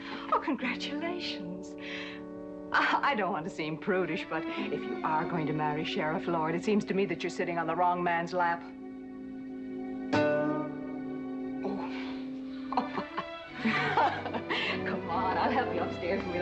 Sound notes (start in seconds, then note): 12.5 both laughing